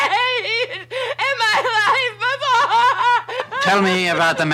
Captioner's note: Betty wailing